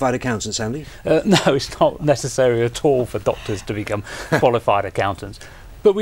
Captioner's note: laughing